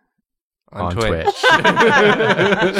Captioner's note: laughter